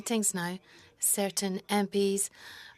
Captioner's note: speaking French